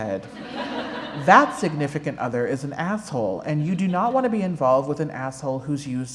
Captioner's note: laughter